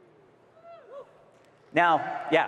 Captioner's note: attendees cheering